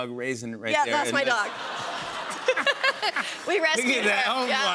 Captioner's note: audience awws